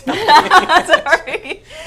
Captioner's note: laughter